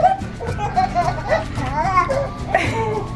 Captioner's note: giggles